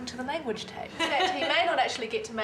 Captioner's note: laughing